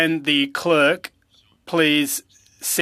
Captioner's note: speaking french